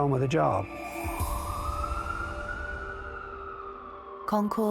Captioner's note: tense pensive music; sirens wailing